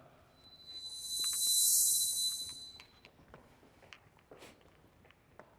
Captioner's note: high-pitched hiss sound